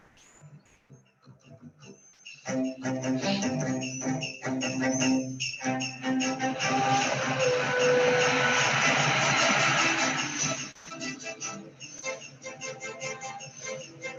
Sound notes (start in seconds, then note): 2.9 orchestral music; 6.9 truck drives